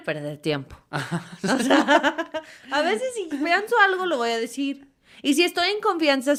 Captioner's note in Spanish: risas